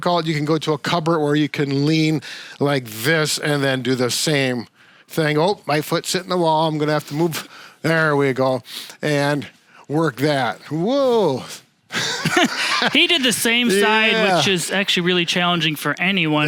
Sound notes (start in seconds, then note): 11.9 chuckles